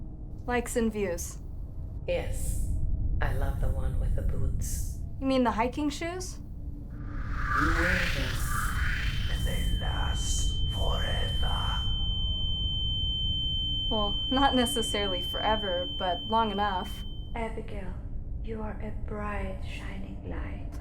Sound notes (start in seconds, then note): 8.7 high pitched tone